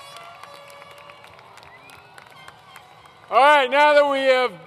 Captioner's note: applause